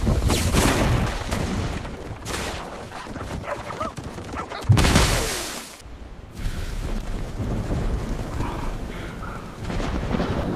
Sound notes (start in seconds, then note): 6.8 thunder crashes